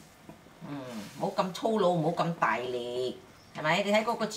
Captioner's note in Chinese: 廣東話